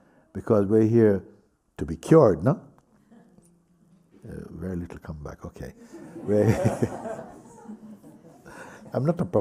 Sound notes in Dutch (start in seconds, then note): 5.8 gelach